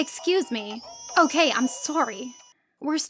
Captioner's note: even louder crying